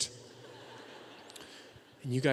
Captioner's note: audience laughing